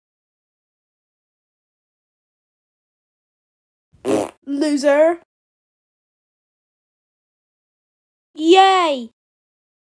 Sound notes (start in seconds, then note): 4.0 farts